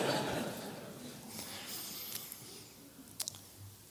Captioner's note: audience laughs